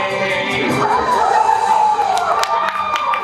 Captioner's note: audience cheers